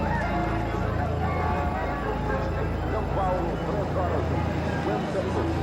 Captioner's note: radio chatter